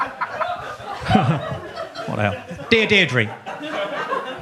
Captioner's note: audience laughs; laughs